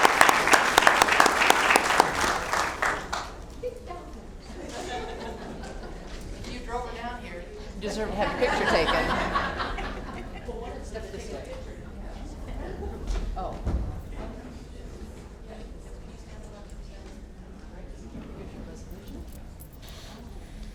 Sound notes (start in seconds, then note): 2.2 applause